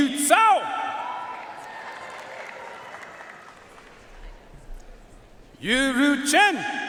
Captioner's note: audience cheering and applauding